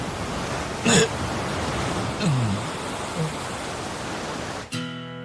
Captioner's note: waves crashing; man groaning